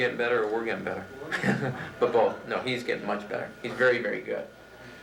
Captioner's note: laughs